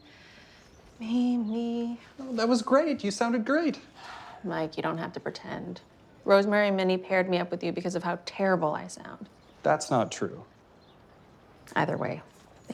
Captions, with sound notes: (off-key) Me, me, me, me, me, me, me (sighs) Me, me. - That was great, you sounded great. - Mike, you don't have to pretend. Rosemary and Minnie paired me up with you because of how terrible I sound. - That's not true. - Either way.